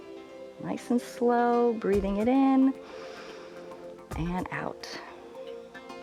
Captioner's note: inhales